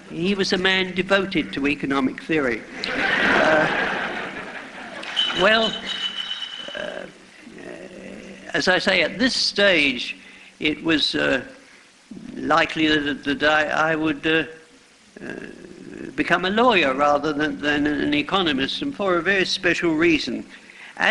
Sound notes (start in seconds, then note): 2.8 laughter